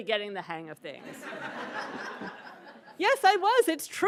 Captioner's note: attendees laughing